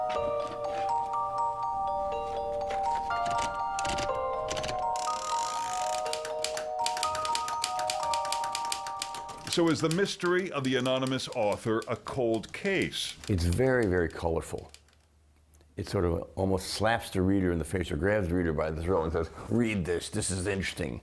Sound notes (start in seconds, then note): 1.2 inquisitive music; 6.7 knob cranking; 8.7 keys clicking